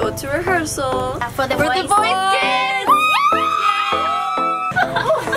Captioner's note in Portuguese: gritos de euforia